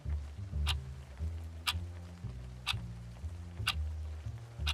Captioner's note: clock ticking